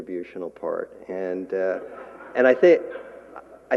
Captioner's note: laughter